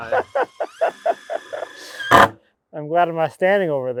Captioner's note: machine drilling